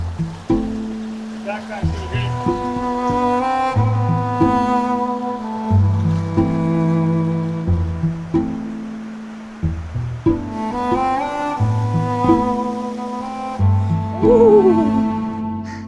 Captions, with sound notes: Backpack, Evy. (water streams) (eerie music) - Ooh.